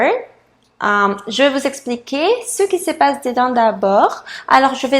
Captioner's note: French